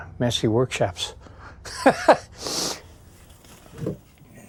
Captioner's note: chuckling